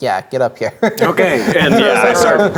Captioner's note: laughing